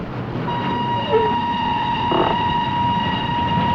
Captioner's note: train whistle